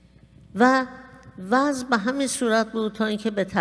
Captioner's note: speaking persian